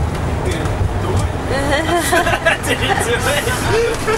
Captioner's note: all laugh